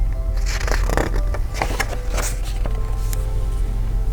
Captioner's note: page turns